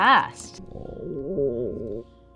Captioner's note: stomach gurgle